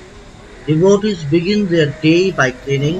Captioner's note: voiceover